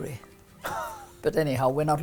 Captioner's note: laughs